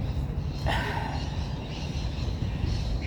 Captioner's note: sighs